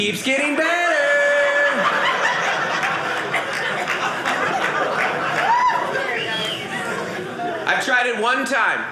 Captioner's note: audience laughing